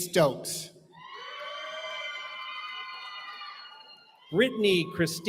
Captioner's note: cheering